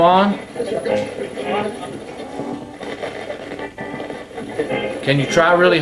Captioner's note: radio channels changing